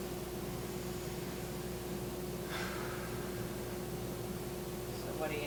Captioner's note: inhaling and exhaling